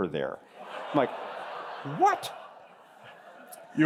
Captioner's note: laughter